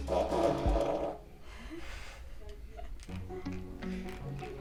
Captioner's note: fart blares